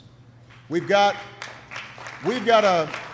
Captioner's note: applause